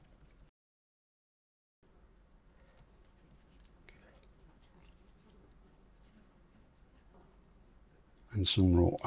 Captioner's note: silence